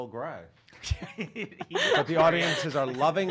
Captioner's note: laughing